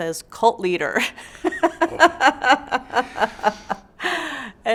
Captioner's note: laughs